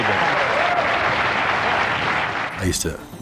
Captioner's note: cheers and applause